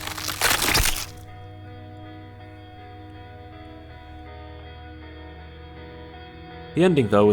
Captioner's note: squishy crushing noises